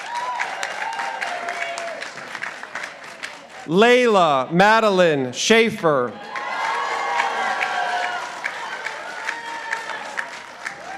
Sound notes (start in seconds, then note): 0.0 participants applauding; 6.1 participants applauding